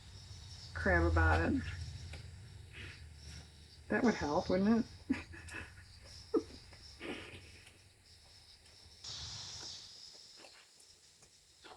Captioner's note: laughs